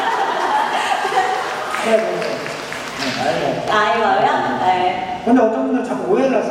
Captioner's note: applause